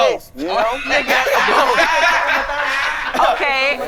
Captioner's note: all laughing